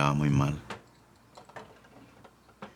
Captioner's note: man speaking Spanish